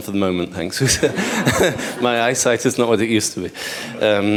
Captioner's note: laughter